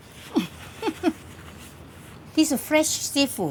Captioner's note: laughs